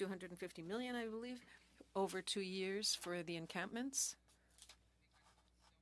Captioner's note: speaking French